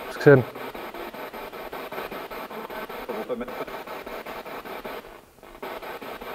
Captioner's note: noise of the spiritbox in the background